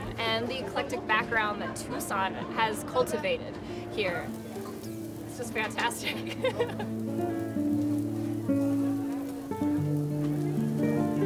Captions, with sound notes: and the eclectic background that Tucson has cultivated here. It's just fantastic. (laughs) (guitar music)